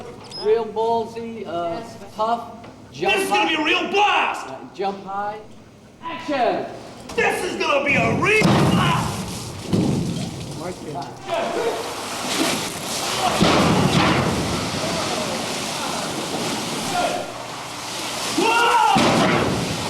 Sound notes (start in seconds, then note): 9.6 thud; 11.6 water hose and overlapping voices; 19.7 water hose and overlapping voices